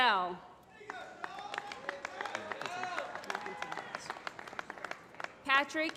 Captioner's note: applause